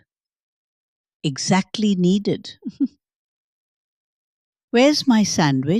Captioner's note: giggles